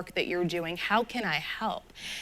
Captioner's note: none